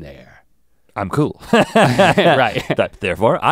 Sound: laughs

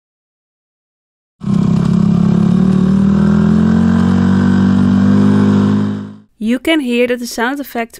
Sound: sound effect car finetuned

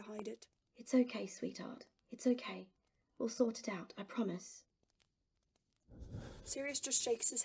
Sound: Sirius suppresses a sob

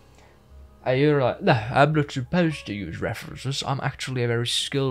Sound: fancy accent

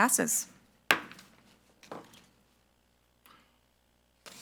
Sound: gavel thuds

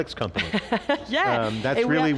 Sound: laughs

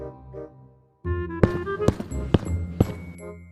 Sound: walking

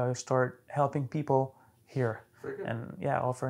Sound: both laughing

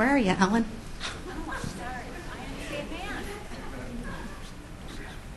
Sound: audience laughter

